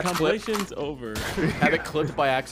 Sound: gunshot

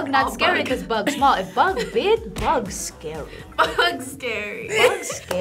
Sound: React laughs; laughs

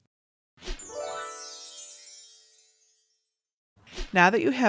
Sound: stars twinkling

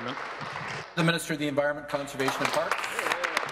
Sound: applause

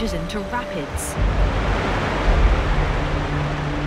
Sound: water running loudly

